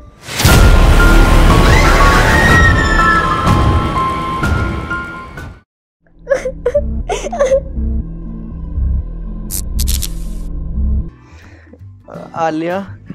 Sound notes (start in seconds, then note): 0.1 scary Music; 6.2 crying; 8.1 scary Music